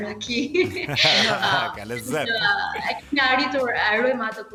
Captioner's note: laughing